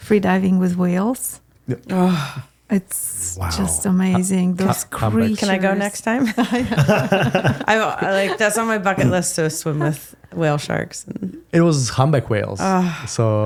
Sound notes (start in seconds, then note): 6.2 laughing